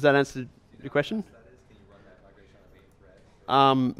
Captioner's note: voiceover